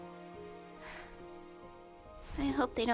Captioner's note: sigh